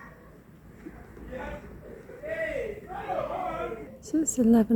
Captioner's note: loud shouting